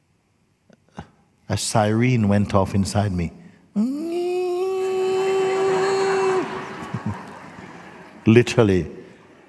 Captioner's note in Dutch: gelach